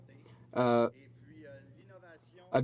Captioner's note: speaking French